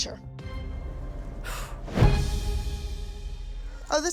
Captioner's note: exhales sharply